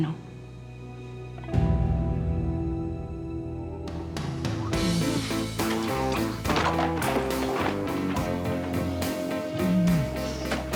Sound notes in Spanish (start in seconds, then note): 6.7 ruidos al tirar todo al piso